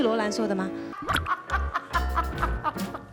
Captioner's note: cracking up